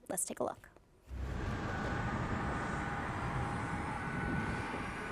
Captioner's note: rocket whooshing